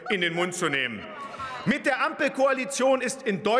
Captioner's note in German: Lachen der Abg. : Auwei!